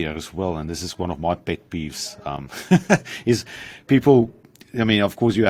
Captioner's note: giggles